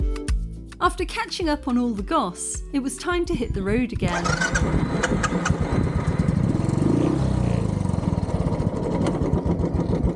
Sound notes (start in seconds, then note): 4.1 engine starting